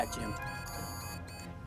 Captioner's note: alarm